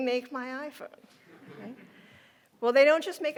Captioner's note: audience laughing